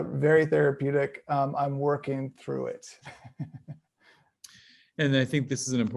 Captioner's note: chuckles